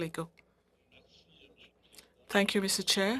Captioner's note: speaking French